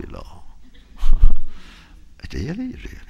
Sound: laughter

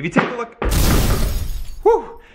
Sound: crashing

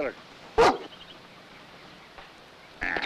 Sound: dog barks

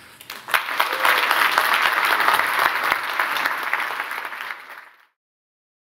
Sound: applause

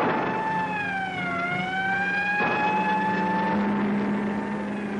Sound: gun fires; police siren blaring

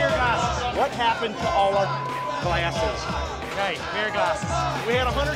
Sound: beep

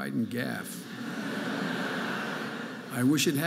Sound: audience laughing

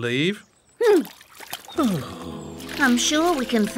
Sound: huffs

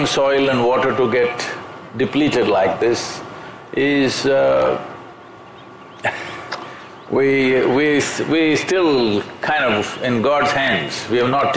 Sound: laughs

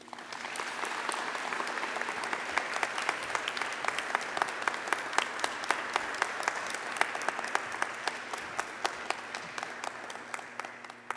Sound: applause

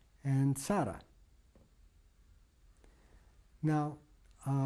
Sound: pauses for 3 seconds

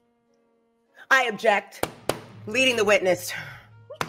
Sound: pounding desk

